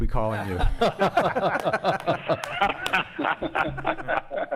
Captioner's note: laughing